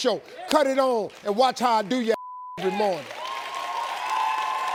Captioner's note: beep; applause